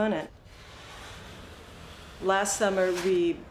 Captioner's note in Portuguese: barulho de raspagem